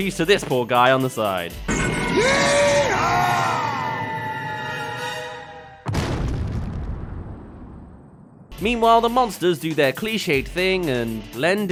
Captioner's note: yeehaw! *Crash